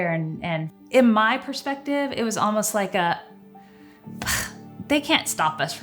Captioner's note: sighs